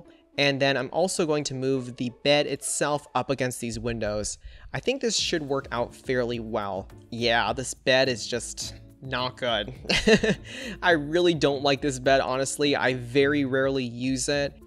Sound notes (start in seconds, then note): 9.8 laughs